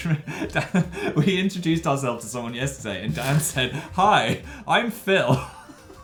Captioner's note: laugh